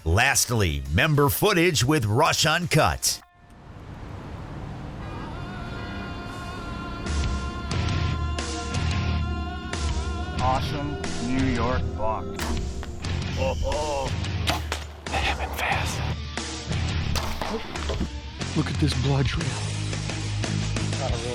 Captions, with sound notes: Lastly, member footage with Rush Uncut. (cars honking) (heavy metal music) - Awesome New York buck. (gun shoots) - Oh, oh. (gun shoots) - That happened fast. (shoots arrow) - Look at this blood trail.